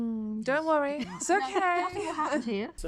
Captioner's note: giggling